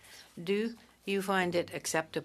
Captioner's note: speaking French